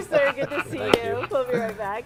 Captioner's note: laughter